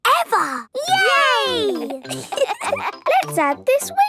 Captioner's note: laughter